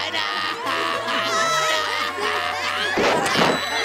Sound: raucous laughter

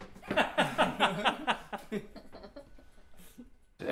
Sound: laughing

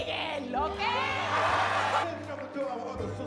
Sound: audience cheers

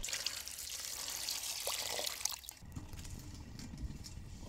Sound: water splashing

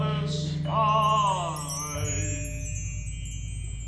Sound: twinkle noise

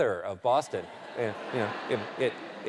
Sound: laughter

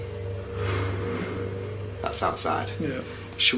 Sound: loud banging

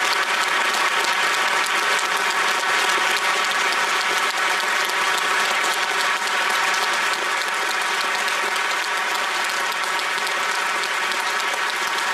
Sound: applause

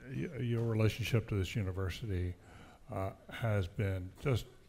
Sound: none

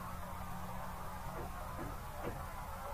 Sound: distant Knocking

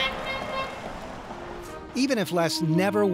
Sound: truck horn playfully honks

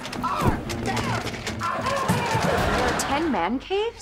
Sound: groaning

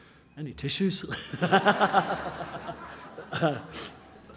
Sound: laughing

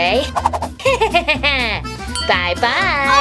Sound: zapper whooshing; Romeo laughing

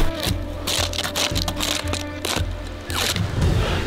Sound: Shooter raking a tree

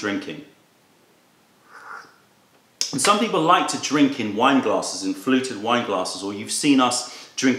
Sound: sips tea

